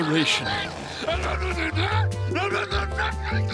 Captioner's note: grumbling